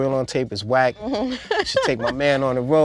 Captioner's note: laughing